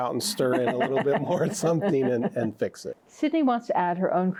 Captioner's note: both laughing